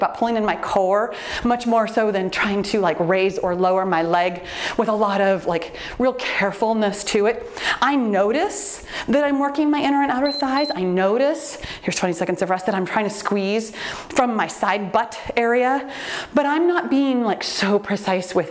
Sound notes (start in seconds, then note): 10.1 timer beeps